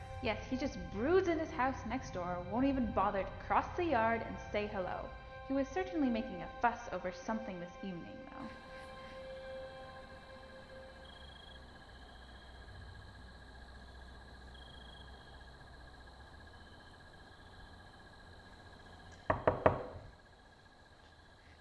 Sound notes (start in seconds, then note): 10.4 crickets chirping; 19.2 knocking